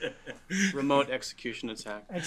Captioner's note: laugh